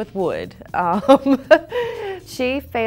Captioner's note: laughs